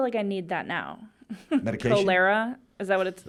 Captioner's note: laughing